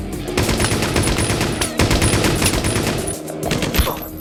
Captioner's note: guns firing; bullets ricocheting